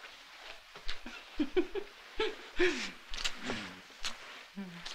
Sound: laughs

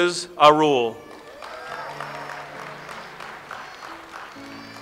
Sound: audience applauds

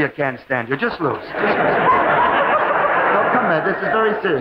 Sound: audience laughing

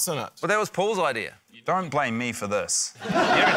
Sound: laughter

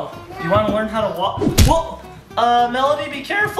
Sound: thuds

